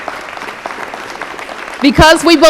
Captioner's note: applause